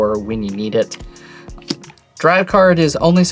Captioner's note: card slaps